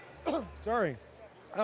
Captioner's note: clears throat